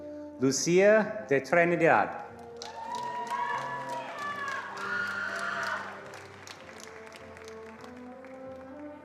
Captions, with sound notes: Lucia de Trinidad. (attendees cheering and applauding)